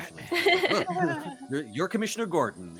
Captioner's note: laughs